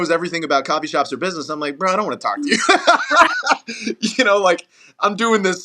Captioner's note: laugh